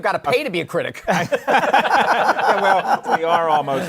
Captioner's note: laughter